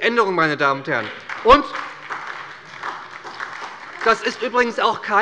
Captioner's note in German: Beifall bei der SPD